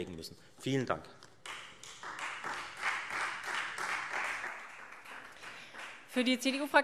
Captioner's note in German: Beifall Freie Demokraten